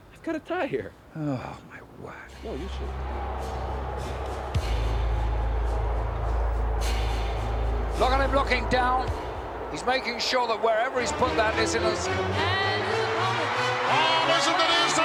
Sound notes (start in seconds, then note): 2.3 ominous music plays; 3.1 crowd boos